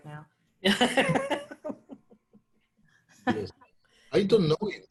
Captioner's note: laughs